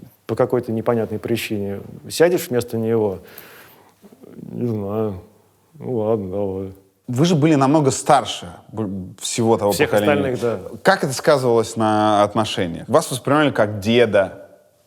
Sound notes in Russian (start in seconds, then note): none